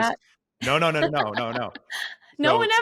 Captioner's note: laughs